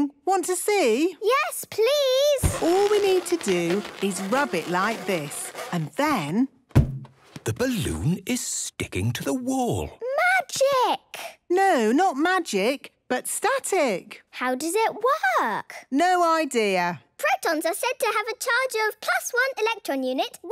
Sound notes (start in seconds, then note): 2.4 balloon rubbing; 6.4 balloon echoes